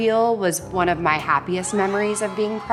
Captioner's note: everyone cheers